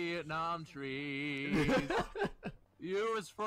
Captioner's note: laughter